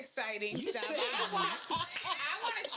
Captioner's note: laughing